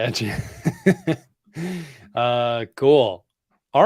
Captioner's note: laughs